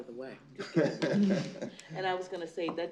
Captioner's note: laughter